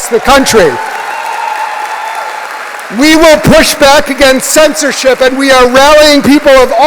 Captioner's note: applause